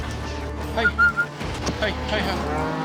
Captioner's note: whistling